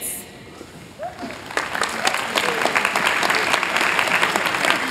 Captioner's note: applause